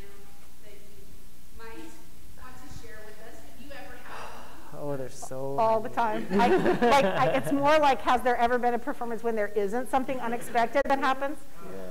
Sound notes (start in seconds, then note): 6.1 laughing